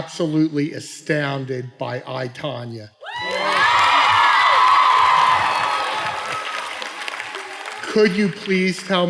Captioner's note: cheering